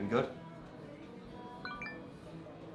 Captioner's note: cellphone message tone chimes